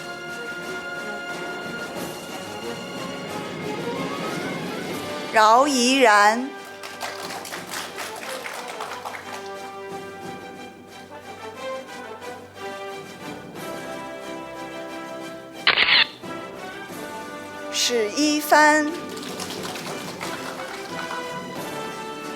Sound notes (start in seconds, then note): 0.1 orchestral music; 5.5 audience applauding; 10.3 orchestral music; 15.7 camera shatters; 16.1 orchestral music; 18.4 audience applauding